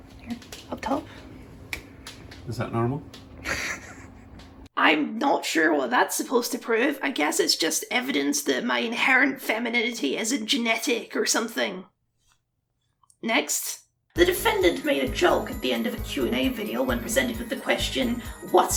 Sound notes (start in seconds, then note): 3.4 giggles